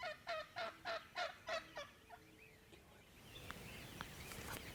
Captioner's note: turkey calling